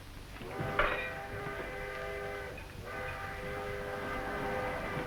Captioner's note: train engine roaring